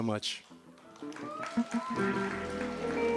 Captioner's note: cheers and applause